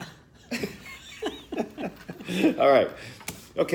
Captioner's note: laughter